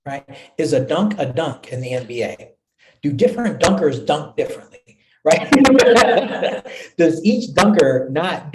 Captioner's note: laughter